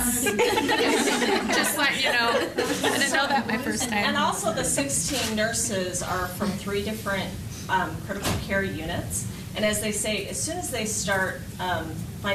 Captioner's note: laughter